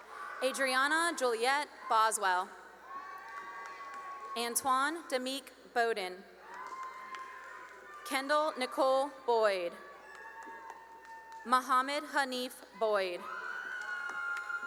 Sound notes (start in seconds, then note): 0.0 cheering and applause; 2.8 cheering; 6.4 cheering and applause; 10.2 cheering; 13.0 cheering